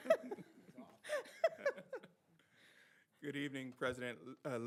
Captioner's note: both laughing